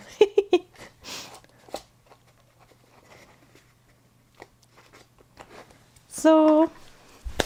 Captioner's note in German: gelächter